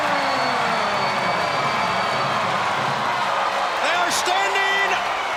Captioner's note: crowd cheering